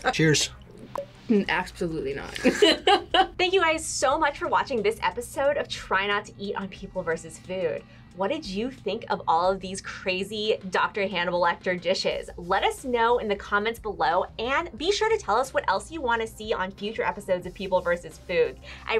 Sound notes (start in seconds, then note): 2.4 both laugh